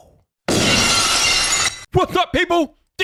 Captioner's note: glass breaking